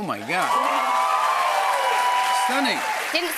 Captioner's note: cheers and applause